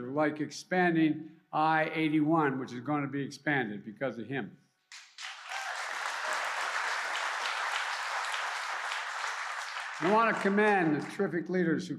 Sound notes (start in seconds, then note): 4.9 applause